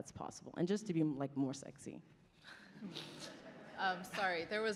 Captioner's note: laughter